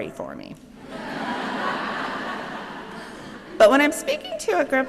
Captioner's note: laughter